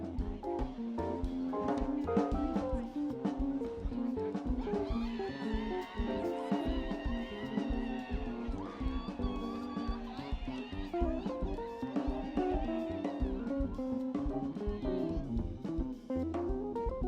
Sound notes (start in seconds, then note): 5.5 people cheering